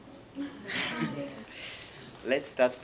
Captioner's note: laughs